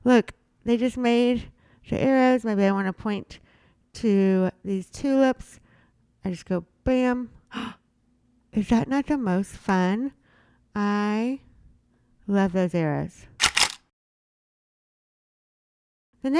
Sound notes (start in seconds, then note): 7.7 gasping; 13.4 camera shuttering